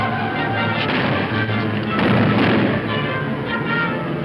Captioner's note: loud booms